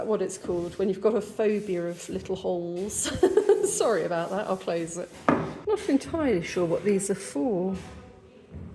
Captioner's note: laughing